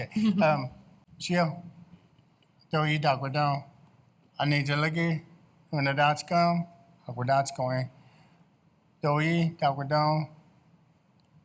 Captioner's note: speaking in Tsalagi